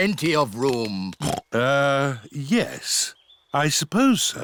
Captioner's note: oinks